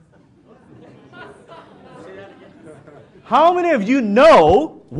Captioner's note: audience laughs